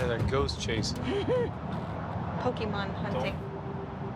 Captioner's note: laughs